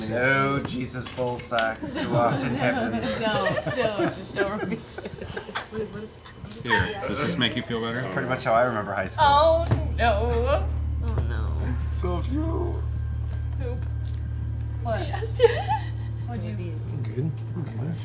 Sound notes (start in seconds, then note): 15.2 giggling